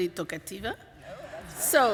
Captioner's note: laughter